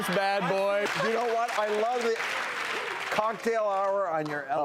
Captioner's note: laughing; clapping